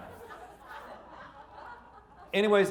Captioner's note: audience laughing